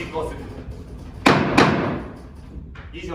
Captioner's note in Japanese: 木槌を打つ音